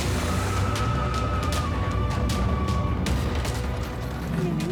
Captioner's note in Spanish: ruido de los vehículos